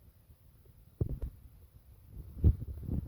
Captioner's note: thud!